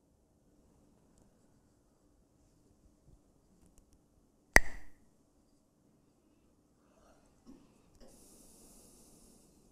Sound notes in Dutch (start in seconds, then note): 4.6 klakt met stokjes